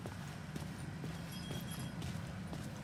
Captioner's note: wind whistling